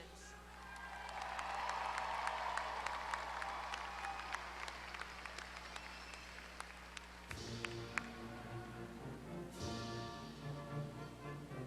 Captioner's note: applause